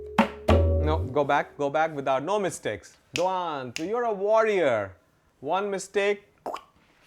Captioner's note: snaps fingers